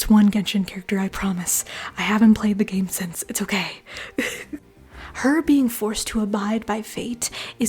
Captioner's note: laughter